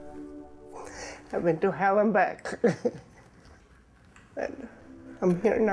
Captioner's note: chuckles